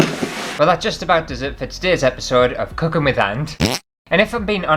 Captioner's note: fart